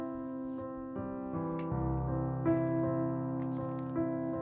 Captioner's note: clicking; rustling